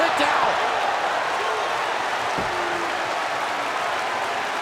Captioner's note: audience applauds